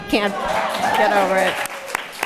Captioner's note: applause